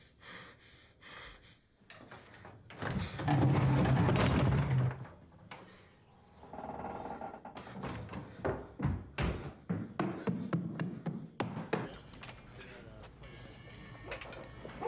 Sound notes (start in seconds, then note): 6.3 creaking noise